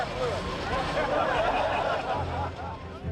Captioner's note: all laughing